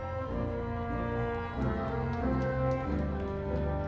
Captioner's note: audience cheering